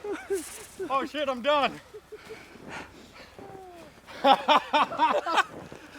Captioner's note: laughing